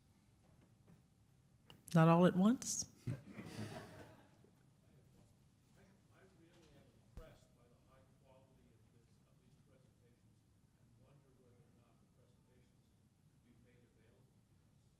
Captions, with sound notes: Not all at once. (audience chuckles)